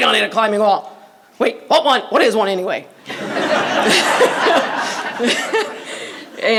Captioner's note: laughter